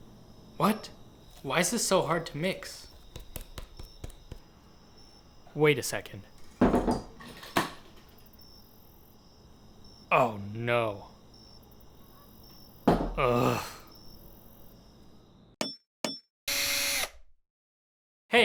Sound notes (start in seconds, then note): 2.9 light thuds; 6.2 kitchen sounds; 13.1 groans; 15.5 tool sounds